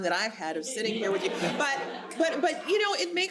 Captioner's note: audience laughs